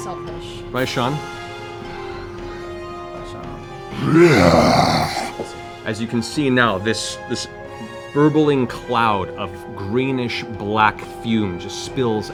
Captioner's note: roars